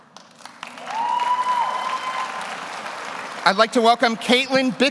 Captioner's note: audience applauds; audience cheers